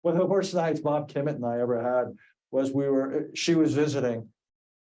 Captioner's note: none